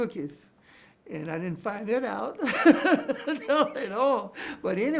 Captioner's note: chuckles